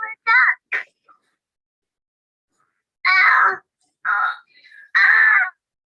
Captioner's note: cries